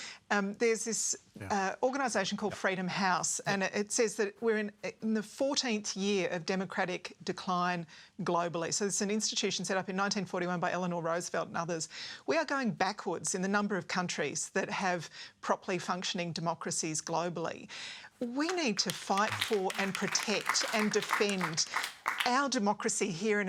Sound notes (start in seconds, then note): 18.2 applause